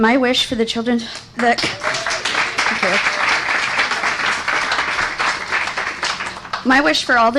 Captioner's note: clapping